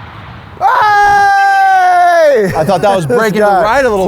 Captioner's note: screams